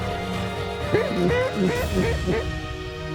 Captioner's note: duck calls